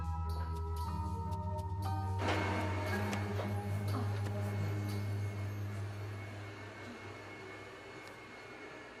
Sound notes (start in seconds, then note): 2.2 vacuum whirring